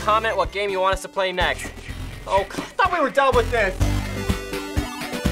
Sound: Jason breathing

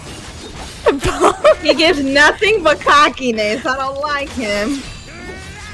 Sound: laughing

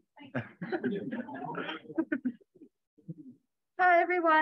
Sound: laughter

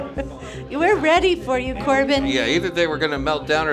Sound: laughing

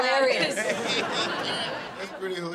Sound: laughing

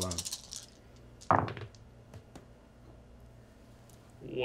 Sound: dice thump

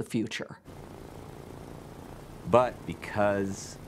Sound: propellers whirring

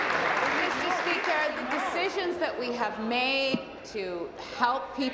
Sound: applause

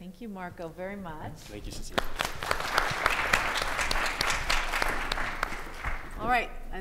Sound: audience applauding

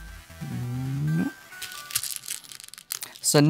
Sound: song ends; stones rattling

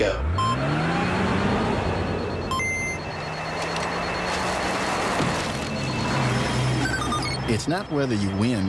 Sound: various video-game-like sound effects

